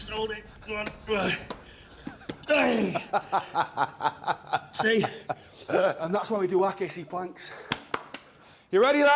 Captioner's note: laugh